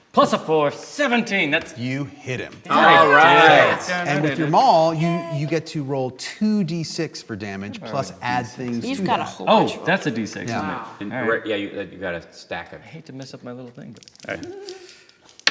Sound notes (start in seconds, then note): 2.7 cheering